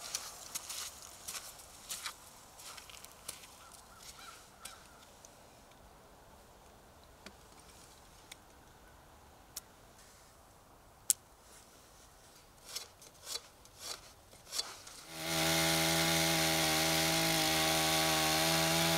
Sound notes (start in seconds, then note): 0.6 crow cowing; 0.6 footsteps cluttering; 15.0 chainsaw engine roaring